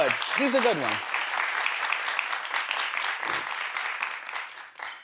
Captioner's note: crowd applauding